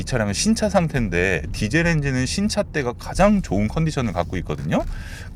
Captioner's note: Diesel makes a sympathetic sound